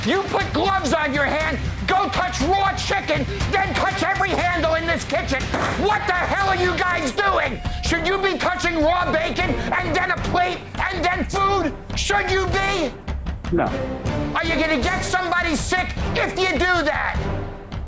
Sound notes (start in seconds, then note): 5.5 hand slams